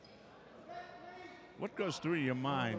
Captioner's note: yelling